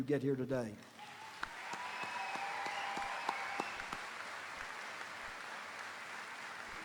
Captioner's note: audience applauding; audience cheering